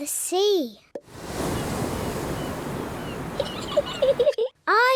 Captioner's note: wave noises; seagulls shriek; giggles